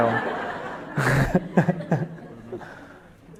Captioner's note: laughs